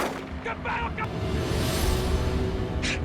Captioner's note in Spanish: Disparos